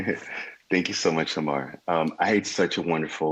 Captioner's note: chuckles